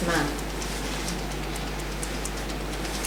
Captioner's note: tapping